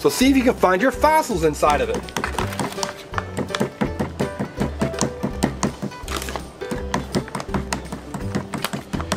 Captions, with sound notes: so see if you can find your fossils inside of it. (upbeat music) (hammer bangs)